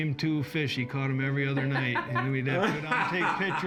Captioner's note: laughter